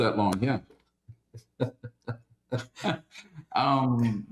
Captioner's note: laughs